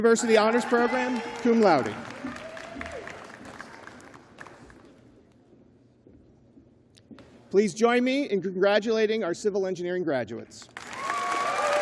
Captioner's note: cheers and applause